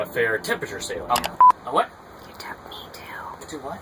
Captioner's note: click and beep